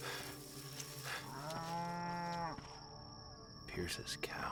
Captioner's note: justin panting; mooing